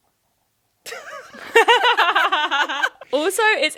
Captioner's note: chuckling